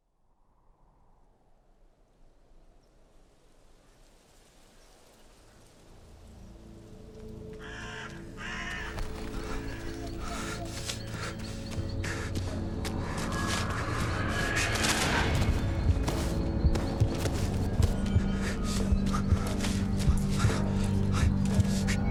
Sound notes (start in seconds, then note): 0.2 wind howling; 5.9 ominous music; 8.4 bird squawking; 10.2 man panting